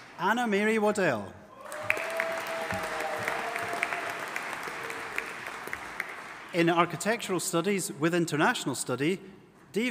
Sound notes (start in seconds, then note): 1.6 audience applauding and cheering